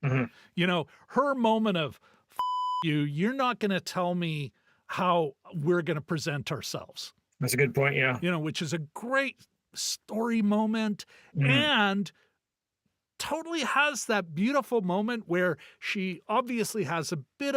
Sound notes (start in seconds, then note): 2.4 beep